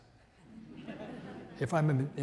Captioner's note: audience laughs